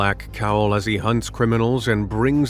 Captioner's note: movie trailer voice